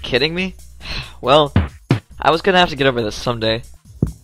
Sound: sigh

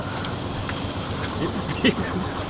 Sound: laughs

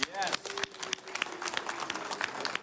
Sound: applause

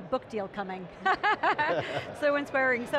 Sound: laughing

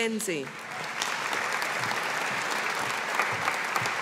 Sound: audience applauding

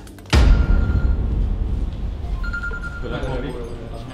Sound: phone ringing

